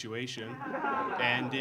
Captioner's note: audience laughing